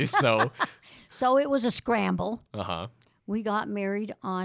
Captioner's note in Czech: Chichotá se